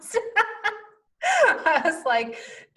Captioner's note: laughing